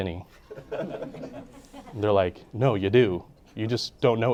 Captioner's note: audience laughing